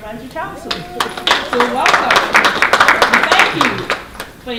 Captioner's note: applause